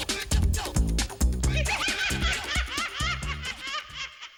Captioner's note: laughing